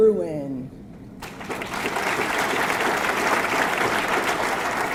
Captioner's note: audience clapping